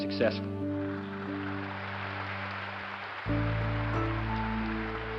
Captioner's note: applause